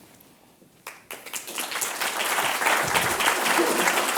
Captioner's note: applause